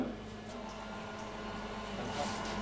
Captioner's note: soft whirring